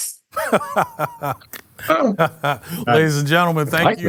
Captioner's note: laughs